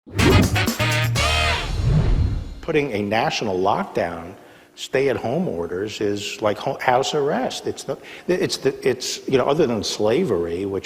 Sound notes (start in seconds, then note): 0.0 air whooshing; 0.0 instrumental music